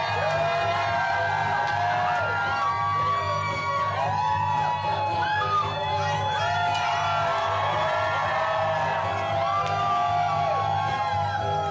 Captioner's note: cheers and applause